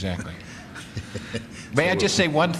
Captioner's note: chuckle